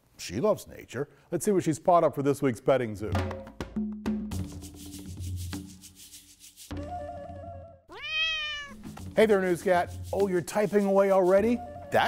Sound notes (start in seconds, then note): 3.2 instrumental music; 7.9 cat meows